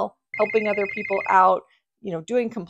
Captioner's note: phone ringing